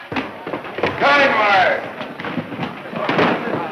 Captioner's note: shouting